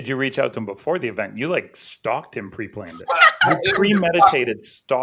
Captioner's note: laughter